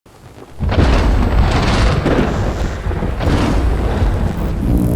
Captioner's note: thunder rumbling